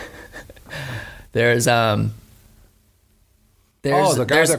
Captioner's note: laughs